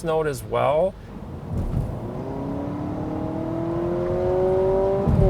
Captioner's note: car revving